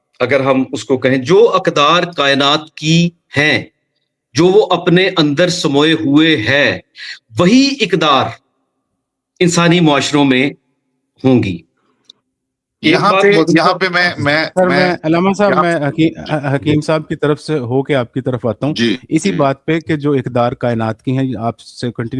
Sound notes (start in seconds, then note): 18.8 clears throat